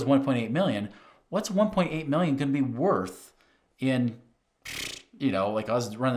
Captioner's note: scoffs